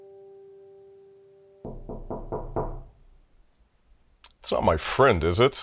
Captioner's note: door knocking